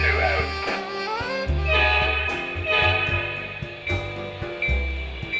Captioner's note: train horn